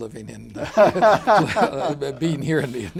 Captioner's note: laughter